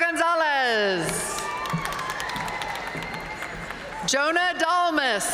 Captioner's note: audience cheering and applauding